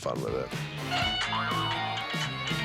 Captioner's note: laughs